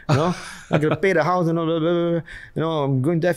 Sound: murmurs

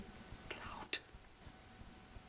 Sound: whispers

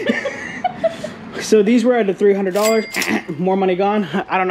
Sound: laughing; cash register dinging; imitating buzzer

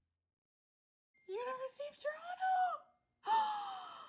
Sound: gasp

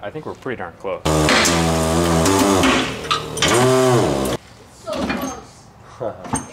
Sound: loud snap and buzzing

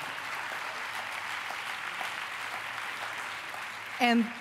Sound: applause

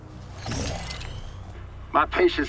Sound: blaster whirrs

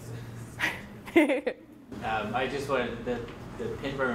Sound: laughs

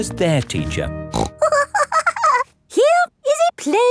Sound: snorts and giggles

